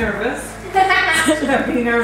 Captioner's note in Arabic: تضحك